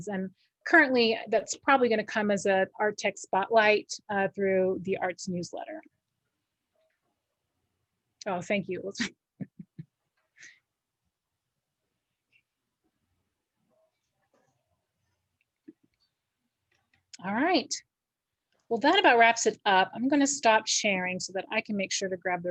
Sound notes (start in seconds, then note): 9.4 laughs